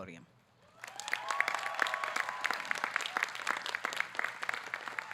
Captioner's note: audience clapping